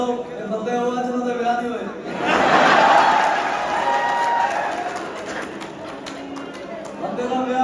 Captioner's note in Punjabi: ਤਾੜੀਆਂ